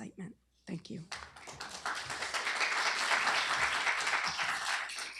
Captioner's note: applause